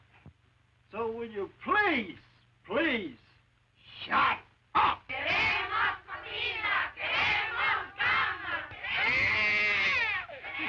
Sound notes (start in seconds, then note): 4.6 women chanting slogan in Spanish; 8.8 baby wails